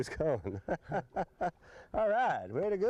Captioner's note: laughter